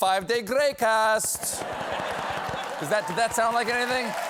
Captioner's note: laughter